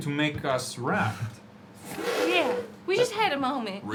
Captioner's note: laughs